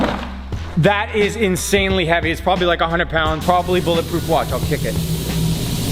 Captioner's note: kick